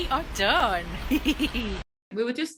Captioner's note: giggles